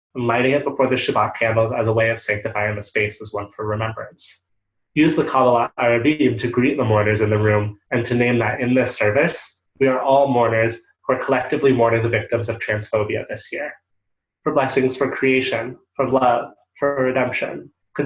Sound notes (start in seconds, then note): 5.0 Hebrew